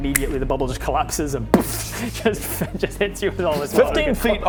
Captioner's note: boof